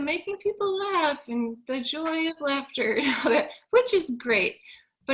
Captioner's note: chuckles